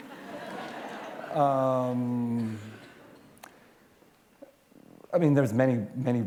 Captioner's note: laughter